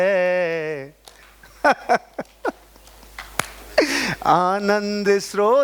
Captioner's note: laughing